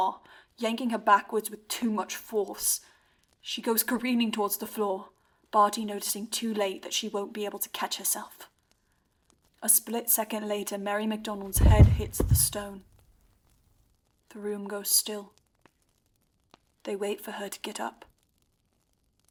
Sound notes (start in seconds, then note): 11.5 thud